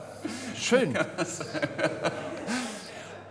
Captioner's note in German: lachend